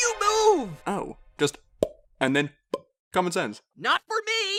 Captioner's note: pop